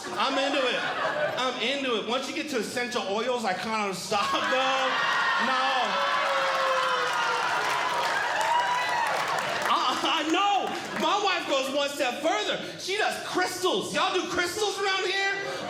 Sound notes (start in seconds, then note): 5.2 audience Groaning; 6.7 audience Clapping